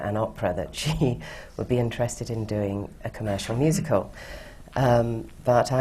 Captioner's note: laughs